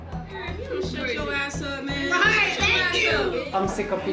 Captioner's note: indistinct chatter